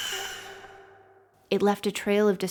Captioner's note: galloping and screaming ends